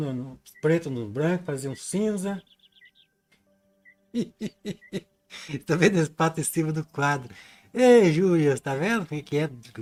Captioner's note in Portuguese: risadas